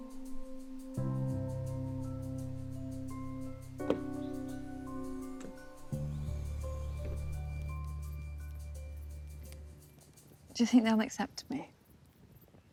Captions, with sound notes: (trunk whooshing) Do you think they'll accept me?